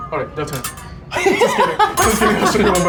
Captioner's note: laughing